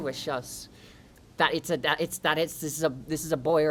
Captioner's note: stuttering